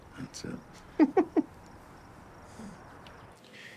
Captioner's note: Grace chuckles